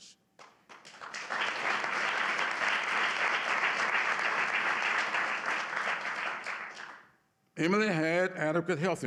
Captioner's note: applause